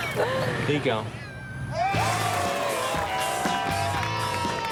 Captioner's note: all cheering; all clapping